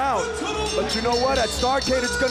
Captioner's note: bell ringing